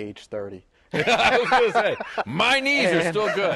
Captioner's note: laughter